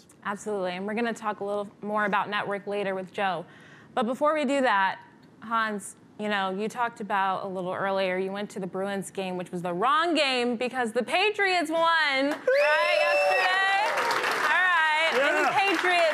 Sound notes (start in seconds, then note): 12.3 applause